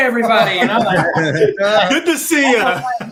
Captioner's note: laughter